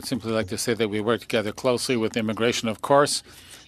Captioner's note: speaking French